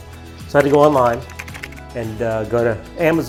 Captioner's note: keys typing